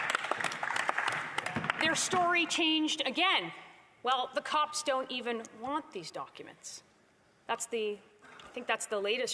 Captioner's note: applause